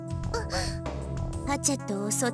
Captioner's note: gasp